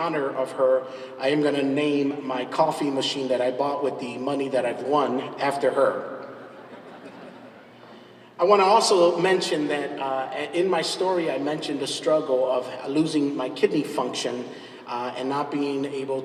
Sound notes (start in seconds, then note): 6.5 laughs